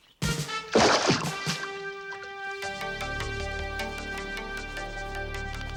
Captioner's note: upbeat music; water splashing